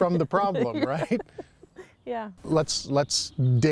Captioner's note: chuckles